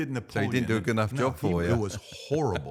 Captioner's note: chuckling